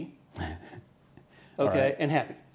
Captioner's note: laughter